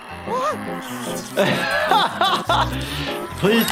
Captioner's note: laughs